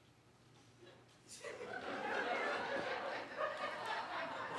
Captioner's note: audience laughing